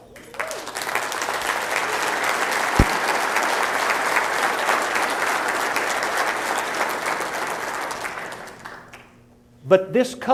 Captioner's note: applause